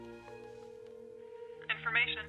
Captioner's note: phone ringing